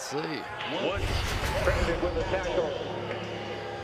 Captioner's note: pa announcement